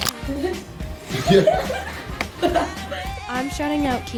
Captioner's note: students chuckle